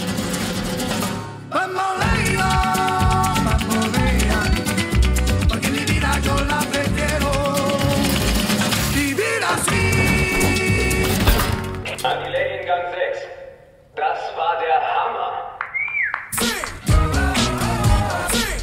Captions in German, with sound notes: (Rhythmische Salsa-Musik) (Lautsprecher:) An die Lady in Gang 6. (Lautsprecher:) Das war der Hammer. (Applaus)